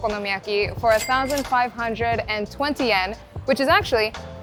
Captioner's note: chime ringing